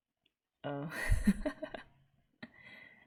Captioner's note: laughs